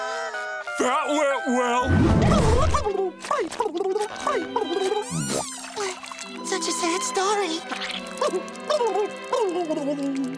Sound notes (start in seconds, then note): 2.6 speaking worm language; 7.7 speaking worm language